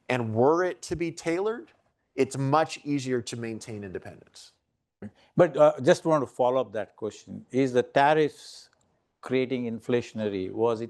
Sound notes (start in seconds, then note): none